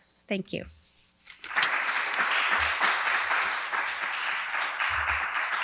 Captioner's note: audience applauding